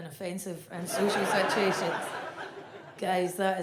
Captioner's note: audience laughs